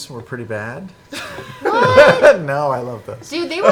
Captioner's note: laughs